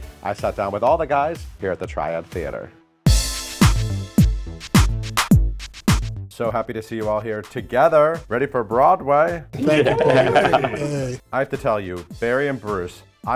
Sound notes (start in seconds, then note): 3.4 upbeat music; 9.6 all laugh